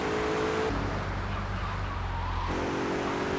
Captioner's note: tires screeching